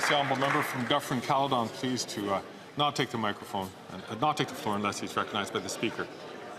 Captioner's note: some Applause